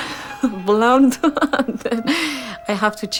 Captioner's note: giggling